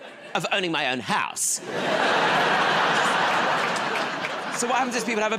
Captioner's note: laughter